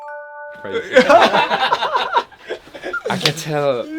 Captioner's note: laughing